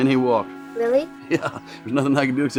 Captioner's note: chuckles